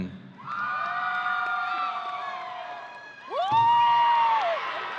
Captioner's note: audience cheering